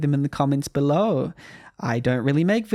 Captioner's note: quick inhale